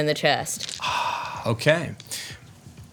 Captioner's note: sighs